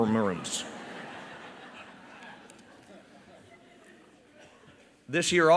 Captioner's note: laughter